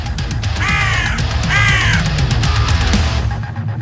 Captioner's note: crows scream